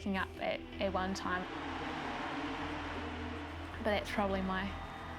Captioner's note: cheering